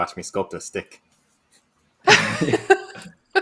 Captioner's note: laughter